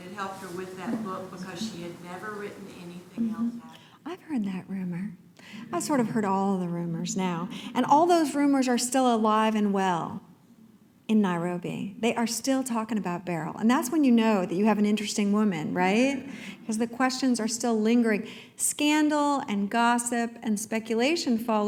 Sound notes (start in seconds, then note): none